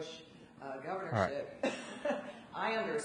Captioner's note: audience member laughs